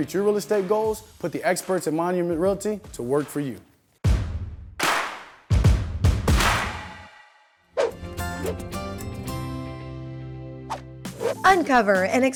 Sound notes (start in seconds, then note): 6.3 whoosh